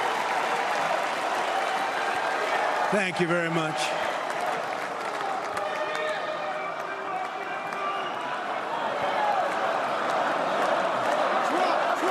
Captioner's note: cheers and applause